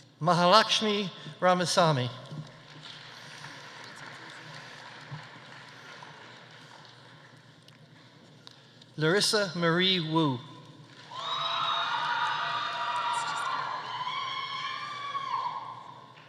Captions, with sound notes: Mahalakshmi Ramasamy. (audience applauding) Larissa Marie Woo. (audience applauding) (audience cheering)